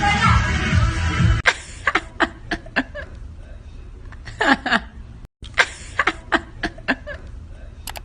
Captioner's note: laughs